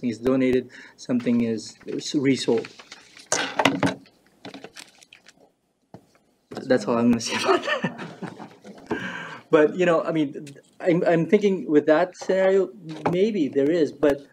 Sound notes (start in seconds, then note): 3.1 clattering; 7.3 laughs